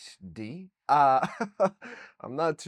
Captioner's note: laughs